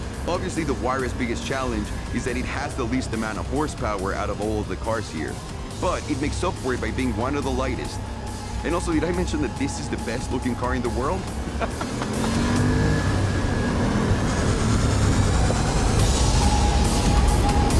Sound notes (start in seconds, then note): 11.5 laughter